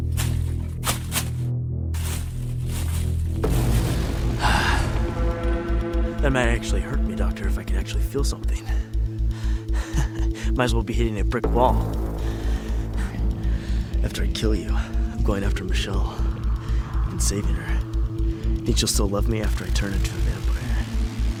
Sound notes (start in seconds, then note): 0.2 crunching on leaves; 9.8 laughs